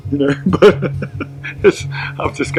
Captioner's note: chuckle